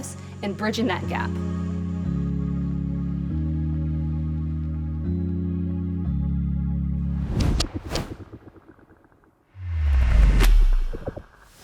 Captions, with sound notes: and bridging that gap. (mellow music) (logo whooshes and clicks)